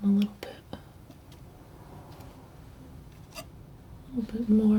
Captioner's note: scratching